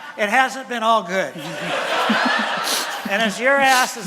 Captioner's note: laughter from audience